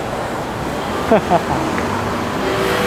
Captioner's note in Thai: เสียงหัวเราะ